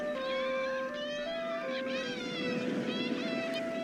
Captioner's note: seagulls. waves